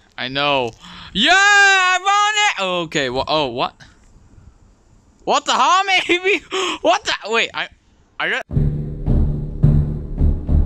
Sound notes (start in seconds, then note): 0.8 inhale; 6.5 inhale